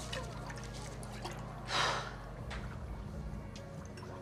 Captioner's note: sighs